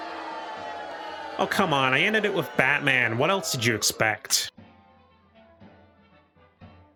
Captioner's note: crowd Boos